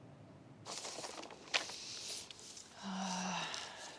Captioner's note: paper map rustles